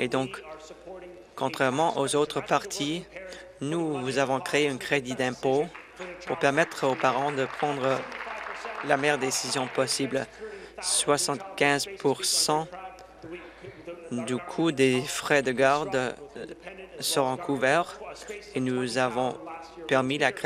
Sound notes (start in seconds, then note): 11.0 applause